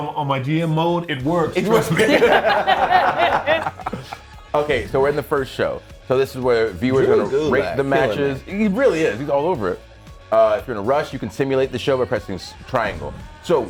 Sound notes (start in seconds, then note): 1.7 laugh